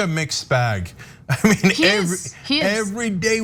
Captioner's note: laugh